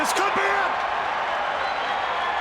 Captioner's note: crowd cheering